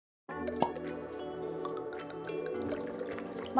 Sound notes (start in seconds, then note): 0.0 cork popping; 0.3 soothing music; 2.5 wine sloshing